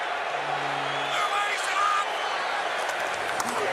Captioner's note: crowd cheering